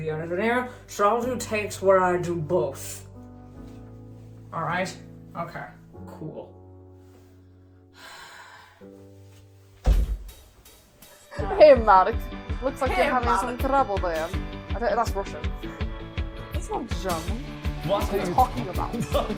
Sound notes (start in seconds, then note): 8.0 sigh; 11.6 attempting an accent; 14.4 laugh